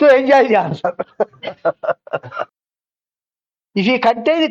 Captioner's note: laughs